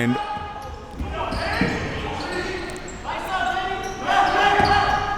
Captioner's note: coaches yelling